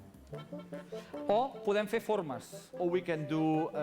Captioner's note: non-english speech